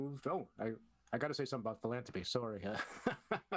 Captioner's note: laughter